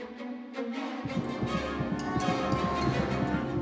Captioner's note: heart beating rapidly